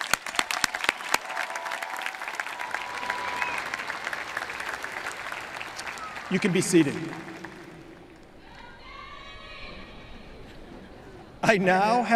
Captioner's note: applause